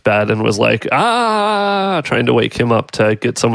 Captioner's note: shouts